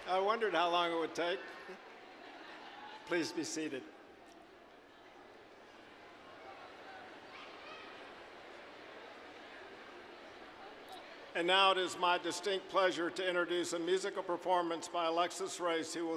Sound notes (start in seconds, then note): 2.2 audience laughing; 5.2 general chatter